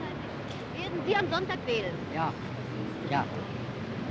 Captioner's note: speaking german